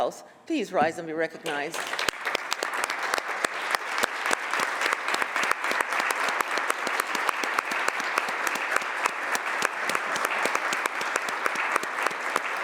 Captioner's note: applause